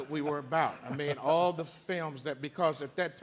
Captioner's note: all laughing